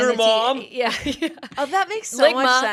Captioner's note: laughs